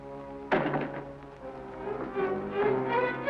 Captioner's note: door thuds; suspenseful music